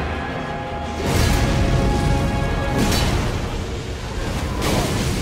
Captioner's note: fire whooshing